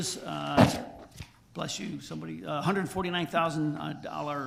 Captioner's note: someone sneezes loudly